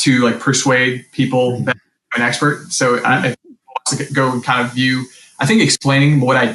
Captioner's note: mic cuts out